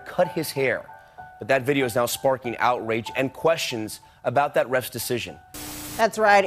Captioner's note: television static noise